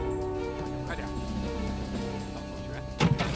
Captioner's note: men speak Chinese language